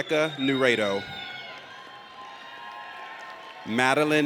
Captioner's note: audience cheers